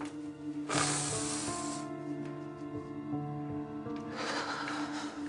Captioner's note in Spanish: Solloza y exhala